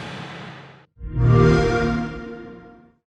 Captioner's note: xbox sound